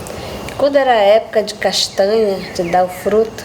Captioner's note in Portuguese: pássaros cantando